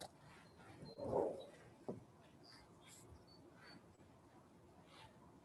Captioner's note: object rustles